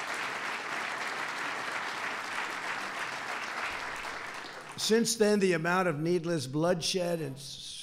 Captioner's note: applause